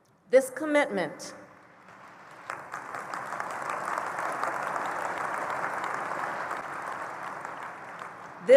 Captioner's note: applause